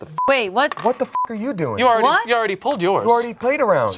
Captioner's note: beep